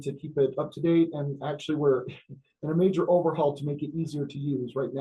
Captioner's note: laughs